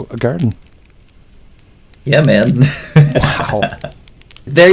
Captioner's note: laughs